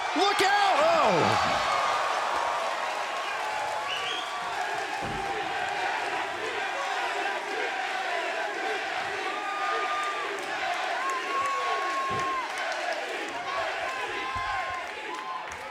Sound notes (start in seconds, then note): 1.7 crowd cheering; 4.3 crowd chanting